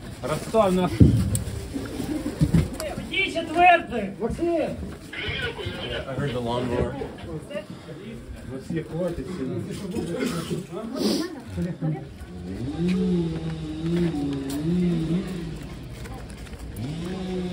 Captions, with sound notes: [speaking in Ukrainian] [shouting in Ukrainian] - Yeah, I heard the lawnmower. [speaking in Ukrainian] [machine buzzing]